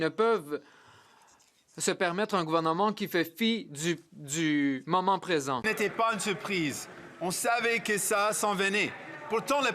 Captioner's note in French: voix de l'interprète